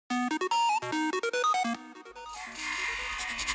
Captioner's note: electronic sounds